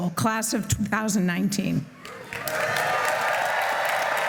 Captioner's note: applause